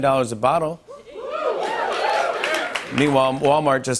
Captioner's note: cheering